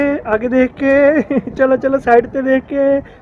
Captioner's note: laugh